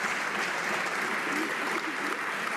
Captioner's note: some Applause